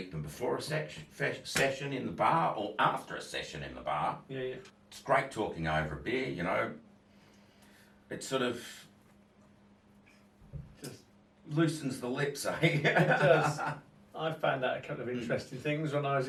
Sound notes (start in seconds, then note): 12.6 laughs